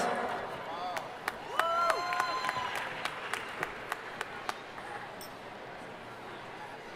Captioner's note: audience cheering and applauding